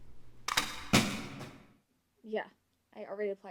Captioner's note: clip banging